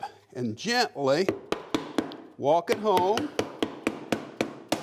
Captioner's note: hammer thudding